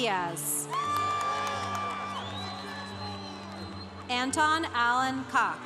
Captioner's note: congregation cheering